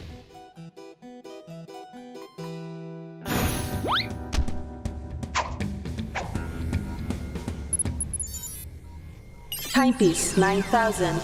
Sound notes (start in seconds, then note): 0.1 soft upbeat; 7.6 beeps; 9.5 robot voice